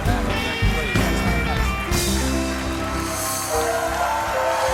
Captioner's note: cheers